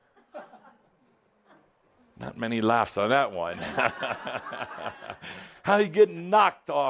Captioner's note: laughter